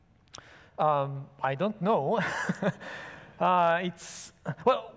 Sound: laughs

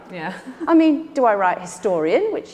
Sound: giggles

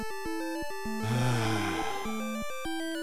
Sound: sigh

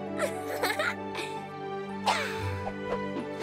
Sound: giggles

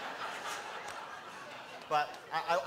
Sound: laughter; applause

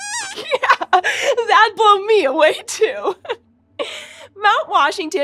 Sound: squeaks squeaks

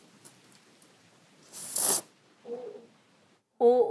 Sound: slurping

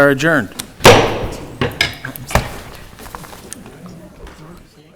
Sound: gavel bangs

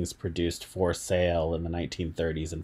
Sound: none

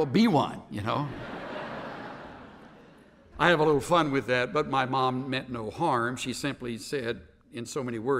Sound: laughter

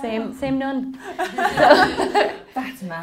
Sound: laughing

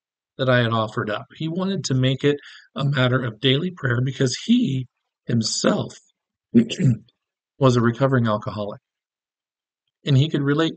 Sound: clears throat

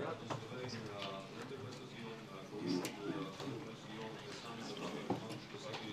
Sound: speaking in foreign language

